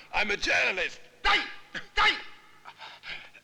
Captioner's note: Malay spoken audio